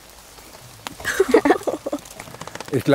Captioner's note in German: Kichern